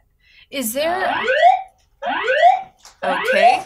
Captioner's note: alarm